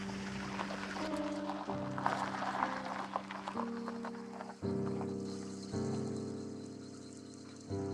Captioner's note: tyres on gravel